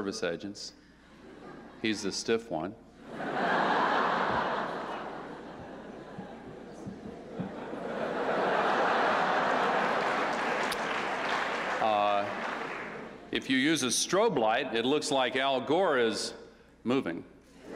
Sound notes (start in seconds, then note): 3.0 laughter; 8.6 applause